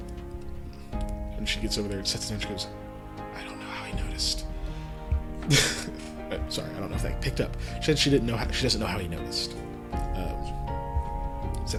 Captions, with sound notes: And she gets over there and sets it down, she does “I don’t know how he noticed.” (Laughs) Sorry, I don’t know if that picked up, she said she doesn’t know how he noticed.